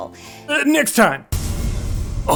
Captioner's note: cool movie trailer style BOOM